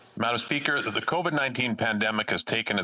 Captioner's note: speaking French